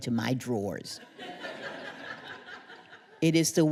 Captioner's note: laughter